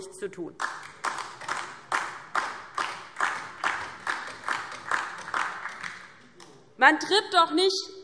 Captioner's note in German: Beifall DIE LINKE und vereinzelt SPD